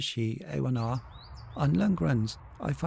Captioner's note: birds chirping